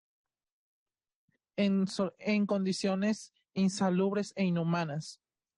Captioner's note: speaking Spanish